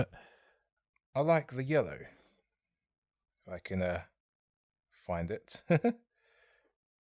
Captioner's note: laughs